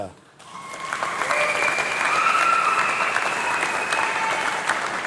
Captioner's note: applause